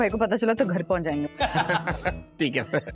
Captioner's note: laughing